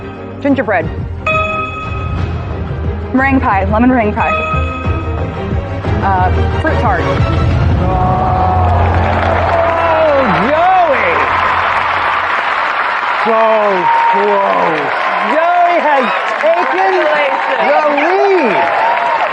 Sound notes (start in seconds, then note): 7.8 audience sighs sympathetically